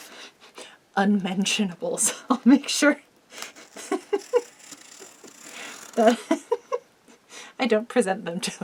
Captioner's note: giggles